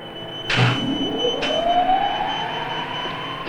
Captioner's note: electronic whirring